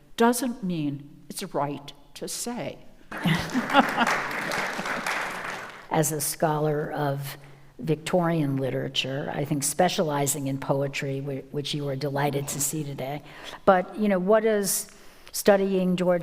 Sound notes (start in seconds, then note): 3.1 audience applauds; 3.1 laughs